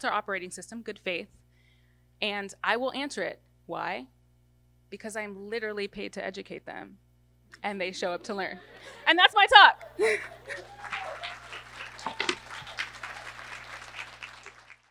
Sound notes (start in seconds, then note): 10.0 laughs; 11.4 audience applause